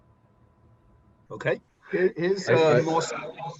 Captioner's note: speaks faintly